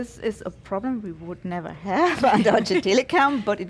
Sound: laughing

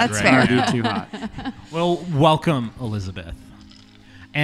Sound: chuckles around the table

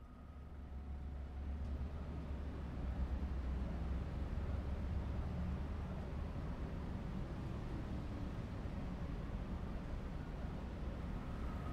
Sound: outside Morning Ambience

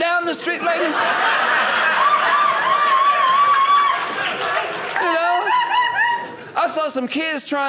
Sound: audience laughing

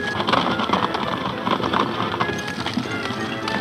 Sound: cart rattling; hooves clopping

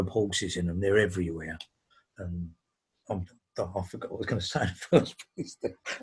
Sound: laughs

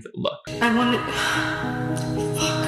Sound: sighs

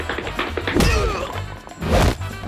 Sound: groaning

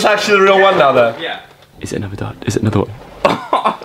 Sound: laughs

